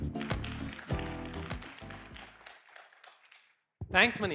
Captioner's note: applause